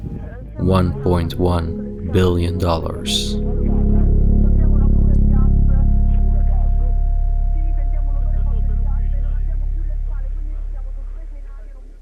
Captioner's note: emergency calls in the Italian language